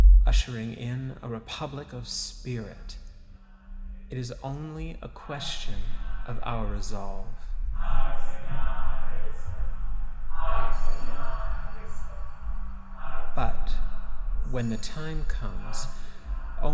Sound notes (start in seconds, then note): 8.6 group chanting